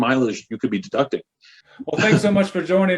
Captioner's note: chuckles